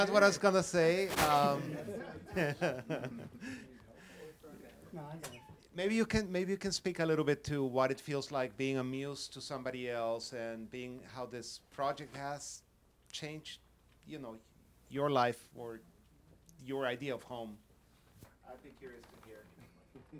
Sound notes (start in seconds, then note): 1.4 laughing